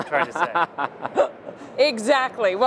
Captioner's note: laughs